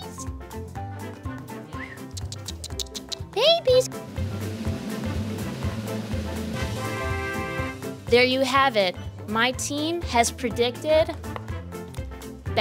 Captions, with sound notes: (playful music continues) Babies. (drums rolling) (horns sounding) There you have it, my team has predicted